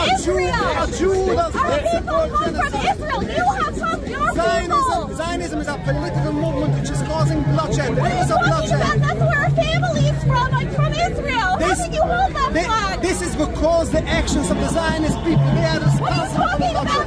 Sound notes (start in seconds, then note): 1.9 people talking in video clip